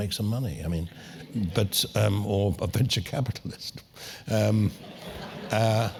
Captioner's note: laugh